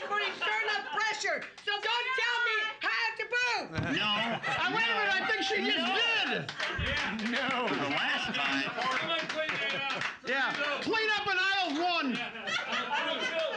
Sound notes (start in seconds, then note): 8.3 clapping; 11.9 laughing